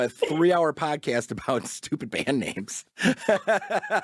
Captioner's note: laughs